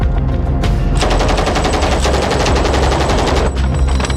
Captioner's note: gun firing